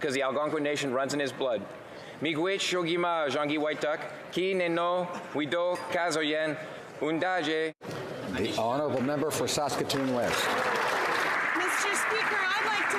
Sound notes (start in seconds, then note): 8.6 speaking native language